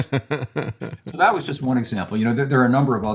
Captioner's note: laughing